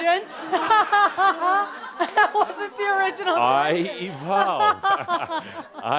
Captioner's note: laughing; more laughter